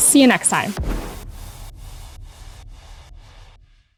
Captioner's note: upbeat music; air whooshes